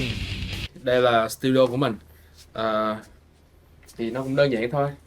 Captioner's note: speaking foreign language